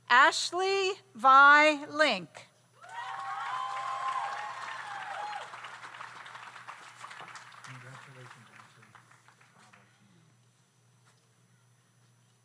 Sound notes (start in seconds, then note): 2.8 audience cheers; 2.8 audience applauds